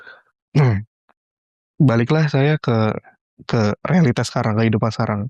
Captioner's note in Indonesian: berdehem